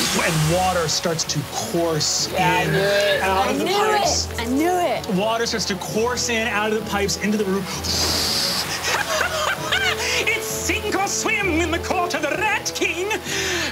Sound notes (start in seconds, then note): 7.7 blowing air; 8.6 laughing